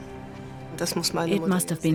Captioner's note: speaks in foreign language